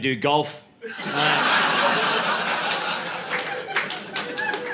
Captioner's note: laughter